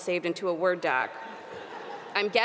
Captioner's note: audience laughing